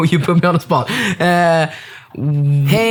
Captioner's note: laughing